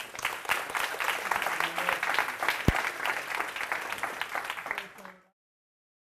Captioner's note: applause